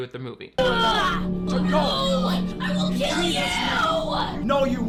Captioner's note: yells